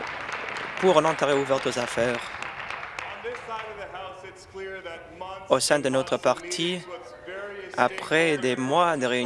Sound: applause

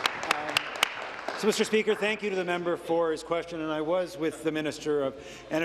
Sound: applause

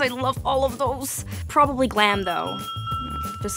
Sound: bell dinging

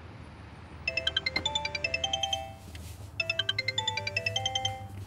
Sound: cellphone rings

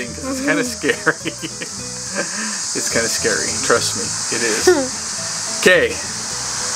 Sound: laughs

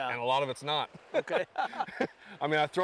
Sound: laughter

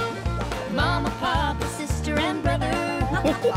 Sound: laughing

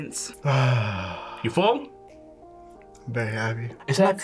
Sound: sighs

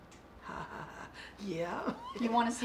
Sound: laughs

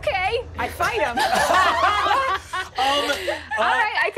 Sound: laughing

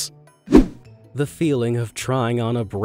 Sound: image whooshing

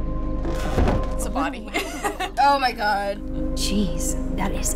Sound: chuckles

